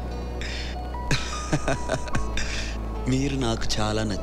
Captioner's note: Laughs